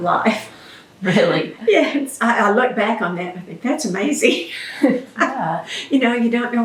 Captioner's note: laughs